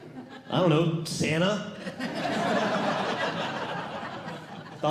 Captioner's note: audience Laughing